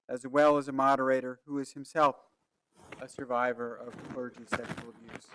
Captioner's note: none